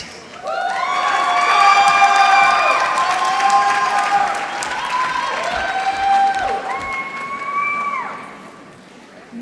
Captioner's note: applause